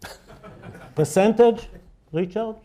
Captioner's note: laughter